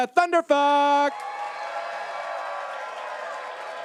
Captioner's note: audience cheers